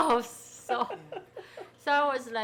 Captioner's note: people laughing